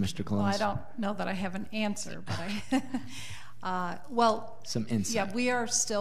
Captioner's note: laughs